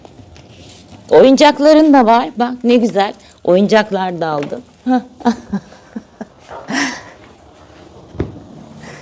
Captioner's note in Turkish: kahkaha